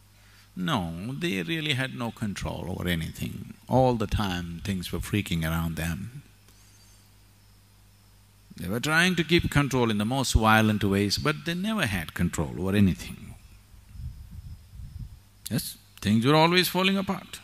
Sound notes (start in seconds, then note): none